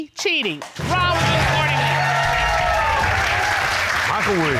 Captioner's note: audience cheering